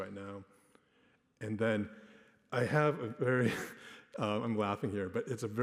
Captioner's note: laughs